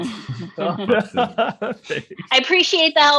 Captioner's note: laughing